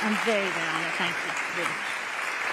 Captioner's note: applause